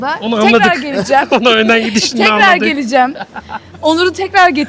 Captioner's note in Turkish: kahkaha